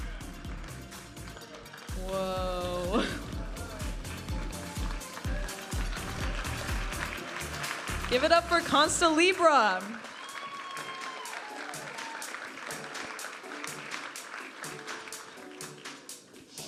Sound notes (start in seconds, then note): 0.0 audience applauding and cheering; 1.2 vibrant music; 4.8 audience applauding and cheering; 7.2 vibrant music; 10.9 audience applauding and cheering; 13.9 upbeat music